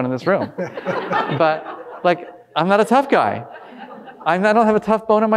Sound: audience laughing

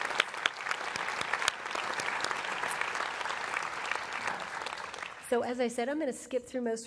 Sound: applause

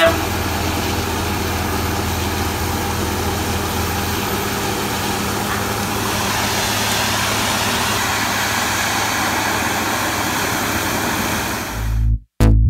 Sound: drilling sounds

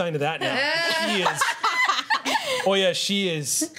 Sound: laughter

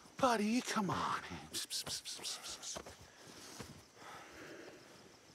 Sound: Kevin huffing

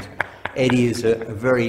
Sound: laughing

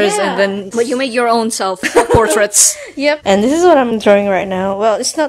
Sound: chuckles

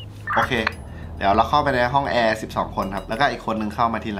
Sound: radio

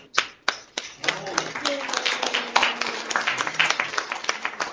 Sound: applause

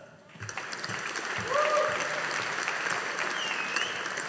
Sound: audience applauding

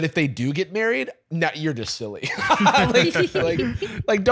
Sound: laughs

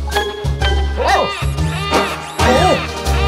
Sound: alarm blaring

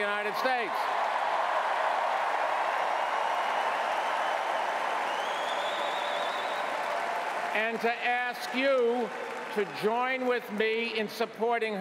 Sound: cheering

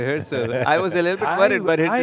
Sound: chuckles

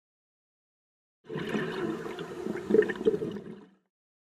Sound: underwater exhalation

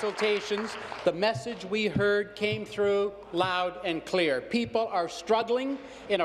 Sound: applause

